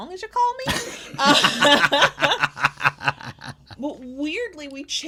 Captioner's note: both laughs